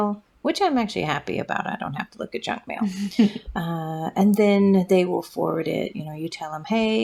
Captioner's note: laugh